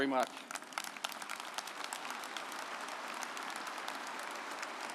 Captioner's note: audience applauding